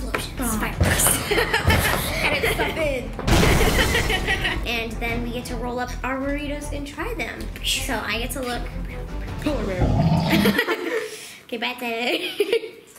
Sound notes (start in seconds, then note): 1.4 laughs; 2.4 explosions; 3.3 glass breaking